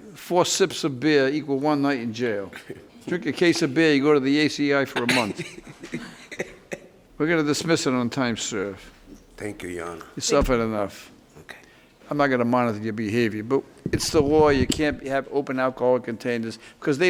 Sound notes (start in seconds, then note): 5.0 laughs